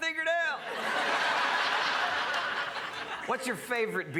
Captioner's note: crowd laughs